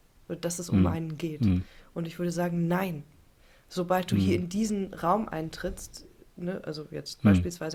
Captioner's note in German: räuspern